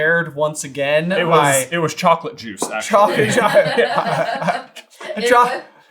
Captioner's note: laughter